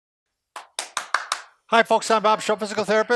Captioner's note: claps hands